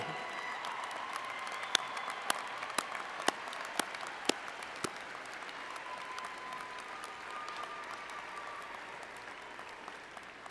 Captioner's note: applause